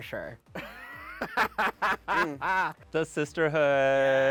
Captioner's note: laughing